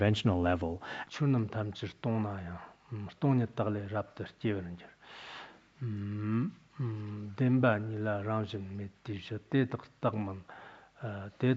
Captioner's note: citing scripture in Tibetan